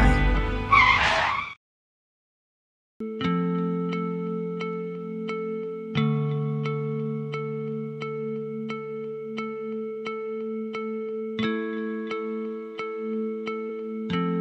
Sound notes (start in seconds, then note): 0.7 car crushing